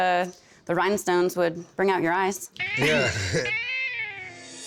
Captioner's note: chuckles